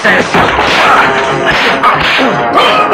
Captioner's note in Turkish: Kavga ortam gürültüsü